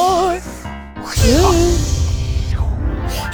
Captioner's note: whoooooosshhhhh!